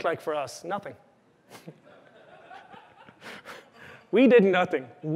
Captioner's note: laughter